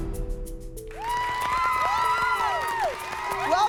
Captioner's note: cheering